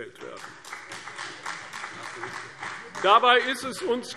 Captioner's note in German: Beifall CDU und BÜNDNIS 90/DIE GRÜNEN